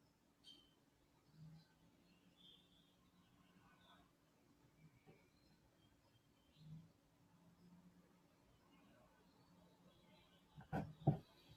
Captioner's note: silence